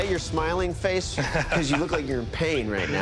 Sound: laughs

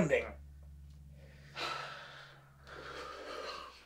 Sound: Sylvia sighs

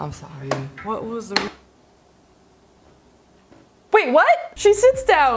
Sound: keyboard clicks

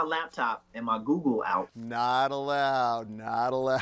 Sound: laughing

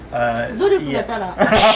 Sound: laughs

